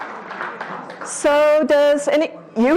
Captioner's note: audience applause